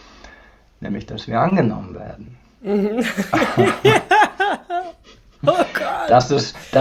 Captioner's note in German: gelächter